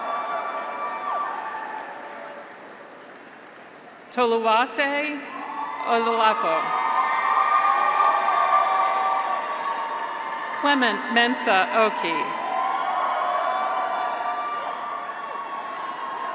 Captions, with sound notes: (graduates cheer) (audience applauds) Toluwase Oladapo. (graduates cheer) Clement Mensah Okey. (graduates cheer)